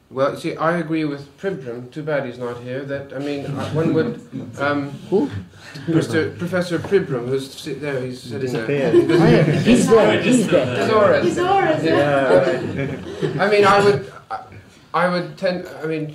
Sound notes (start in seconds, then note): 3.4 laughter; 13.3 laughs